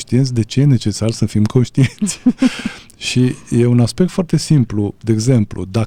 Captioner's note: laughter